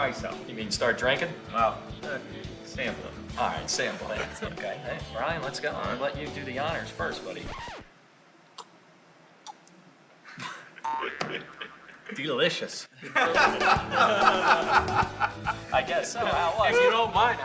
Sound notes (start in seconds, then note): 13.0 laughs